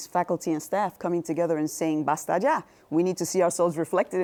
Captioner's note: speaking Spanish